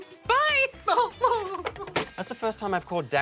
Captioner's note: laughs